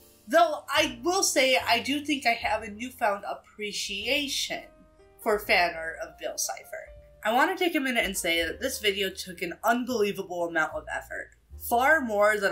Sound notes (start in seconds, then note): none